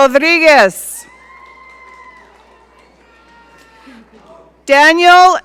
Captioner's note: audience cheering